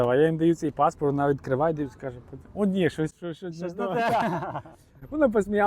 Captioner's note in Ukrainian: сміх